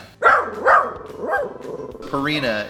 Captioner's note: dog barking